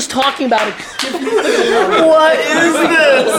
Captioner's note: laughter